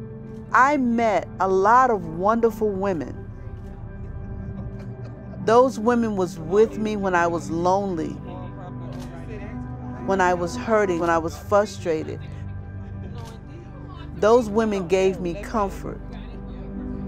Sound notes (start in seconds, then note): 8.5 indistinct chatter